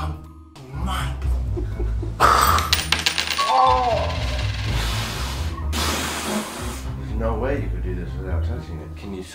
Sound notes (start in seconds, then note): 1.5 chuckle; 2.5 air blowing and coin clattering; 4.9 intense blowing